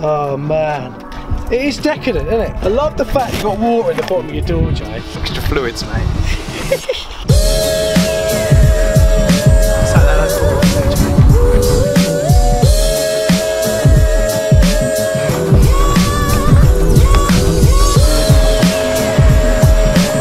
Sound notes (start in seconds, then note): 5.6 upbeat electronic music; 6.3 chuckles